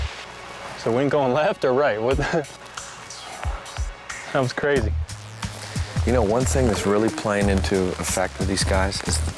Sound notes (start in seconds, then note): 2.2 lalaugughsh